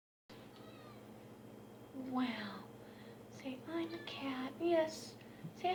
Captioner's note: cat meows; more meowing